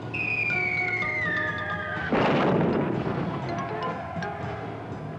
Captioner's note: shell whistles; explosion; men screaming; martial music